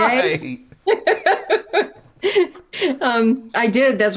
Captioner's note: laughter